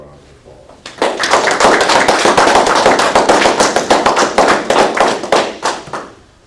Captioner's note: applause